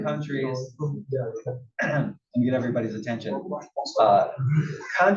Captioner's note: cough